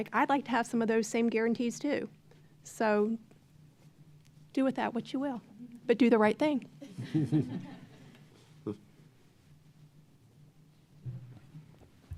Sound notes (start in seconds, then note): 7.0 audience laughing